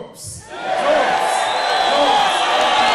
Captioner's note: cheering